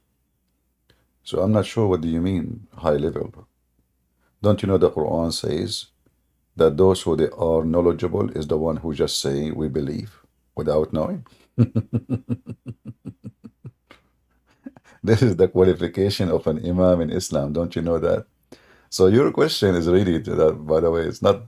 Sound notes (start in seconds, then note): 11.6 Ketawa